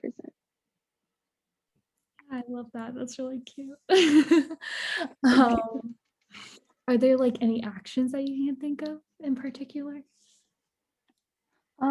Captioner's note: laughs